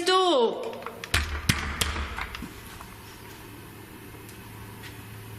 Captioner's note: banging on door